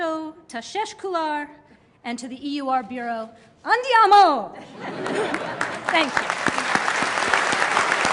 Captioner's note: laughter and applause